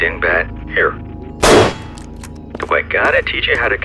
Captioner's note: gunfire